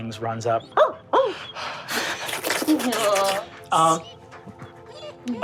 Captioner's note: Ox barks and licks